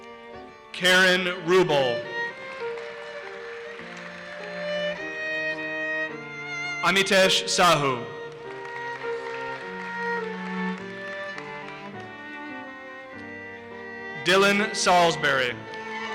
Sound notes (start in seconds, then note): 1.6 audience applauses; 7.7 audience applauses; 15.9 audience cheers and applauses